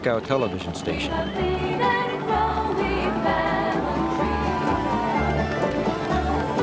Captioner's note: children cheering and singing